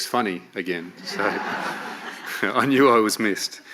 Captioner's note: audience laughs